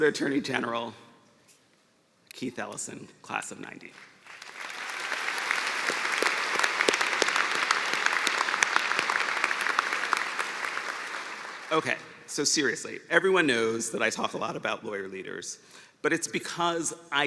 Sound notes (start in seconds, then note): 4.2 cheers and applause